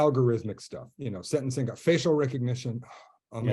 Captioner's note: exasperated sigh